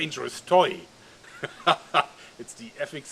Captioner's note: dirty laugh